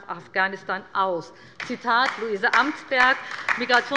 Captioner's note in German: Beifall bei der LINKEN